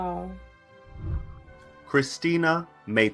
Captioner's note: whooshing